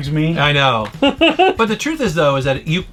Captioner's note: laughing